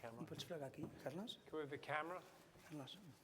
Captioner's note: non-english speech